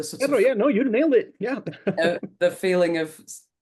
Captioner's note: laughs